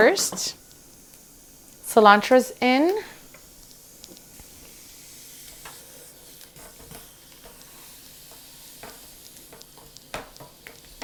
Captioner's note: sounds of sizzling in pan